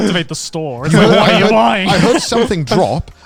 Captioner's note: all laughing